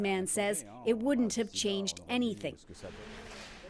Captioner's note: speaking French